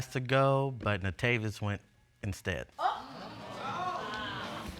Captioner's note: audience exclaim